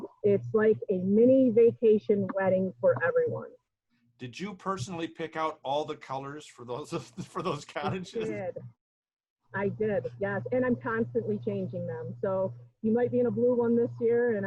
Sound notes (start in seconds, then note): 6.8 laughs